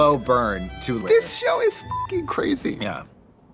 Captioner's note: beep